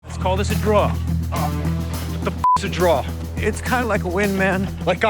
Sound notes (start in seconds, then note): 2.4 beep